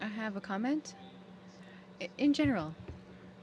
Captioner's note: speaking French